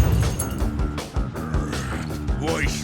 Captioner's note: growls